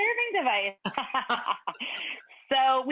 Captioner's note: Rachael laughing